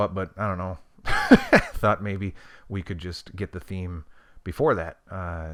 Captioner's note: laughs